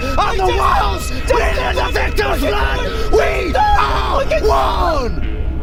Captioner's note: yelling